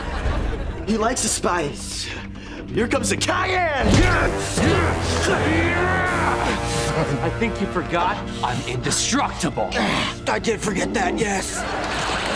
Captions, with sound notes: He likes the spice. Here comes the cayenne! [grunting] I think you forgot, I'm indestructible. I did forget that, yes.